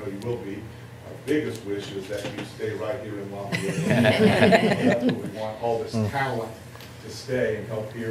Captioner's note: laughter